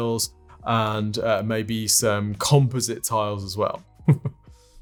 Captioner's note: chuckles